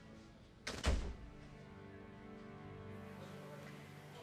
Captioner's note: door closes